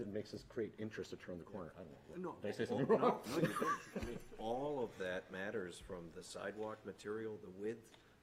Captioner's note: laughter